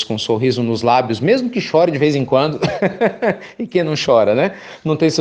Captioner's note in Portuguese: risos